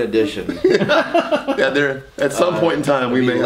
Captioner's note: laughs loudly